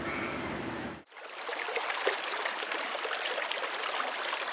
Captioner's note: water running